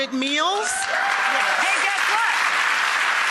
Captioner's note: applause